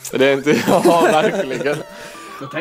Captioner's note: laughs